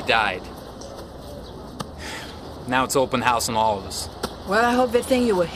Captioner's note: exhales